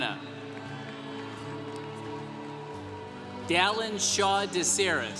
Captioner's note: congregation applauding